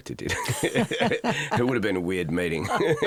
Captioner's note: both laugh